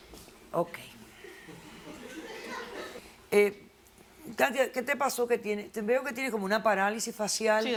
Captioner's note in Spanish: Risas